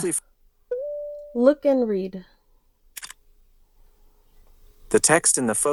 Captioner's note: camera click sound